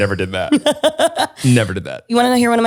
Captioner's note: laughs